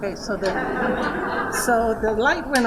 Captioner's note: laughter